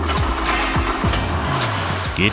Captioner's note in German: Motor startet